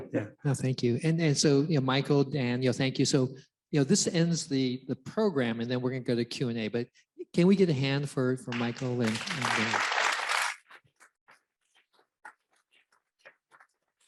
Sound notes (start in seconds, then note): 8.5 audience applauds